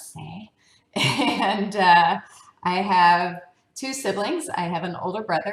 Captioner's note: laugh